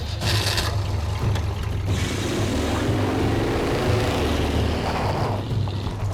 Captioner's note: engine revving